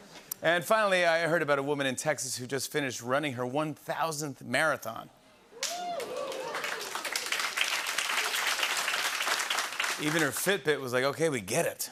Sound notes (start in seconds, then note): 5.6 cheering and applause